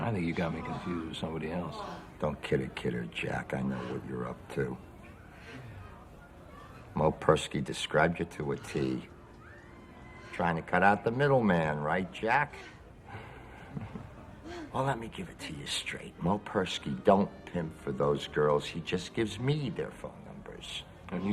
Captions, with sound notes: - I think you've got me confused with somebody else. - Don't kid a kidder, Jack, I know what you're up to. Moe Perski described you to a T. Trying to cut out the middleman, right Jack? (chuckles) Well, let me give it to you straight, Moe Perski don't pimp for those girls, he just gives me their phone numbers.